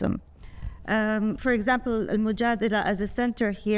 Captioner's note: speaking foreign language